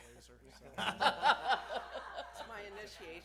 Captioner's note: laughter